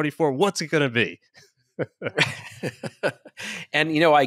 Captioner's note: both chuckle